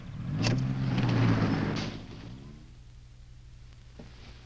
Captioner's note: car engine revving